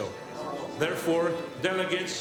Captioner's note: people murmuring